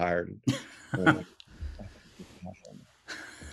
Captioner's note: laughs